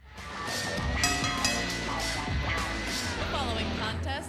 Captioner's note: bell ringing